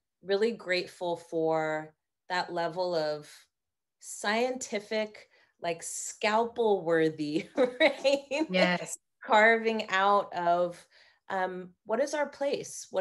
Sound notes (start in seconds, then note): 8.4 laughing